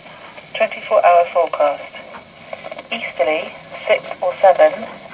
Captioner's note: woman speaking on radio